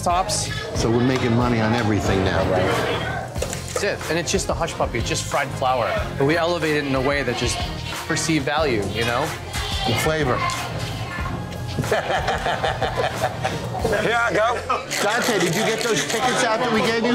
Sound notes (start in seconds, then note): 11.7 laughter